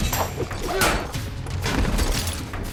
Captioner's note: grunts